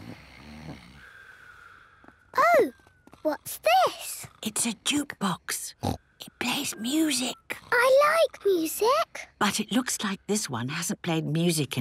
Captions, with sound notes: - (snoring) - Ooh! What's this? - (whispering) It's a jukebox! Snort! It plays music. - I like music! - But it looks like this one hasn't played music